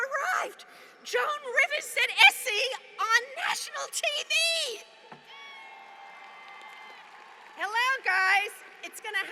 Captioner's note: applause